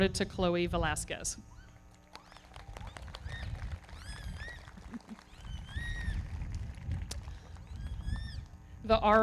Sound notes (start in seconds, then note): 1.9 everybody clapping; 2.1 audience cheering